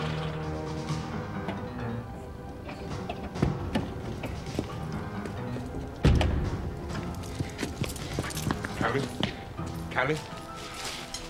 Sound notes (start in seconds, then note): 6.0 car door thudding